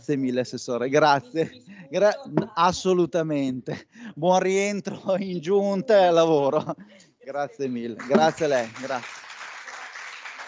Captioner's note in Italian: Applauso